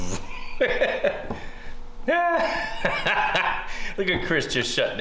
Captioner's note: laughing